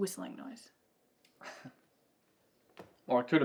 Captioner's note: Ben chuckles